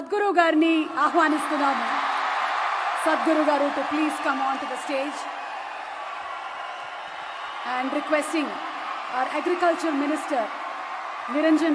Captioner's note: cheering/Applause